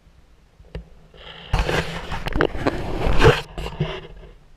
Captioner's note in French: GRINCEMENT DE PENTURE DE GoPro